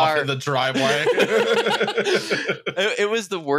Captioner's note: laughter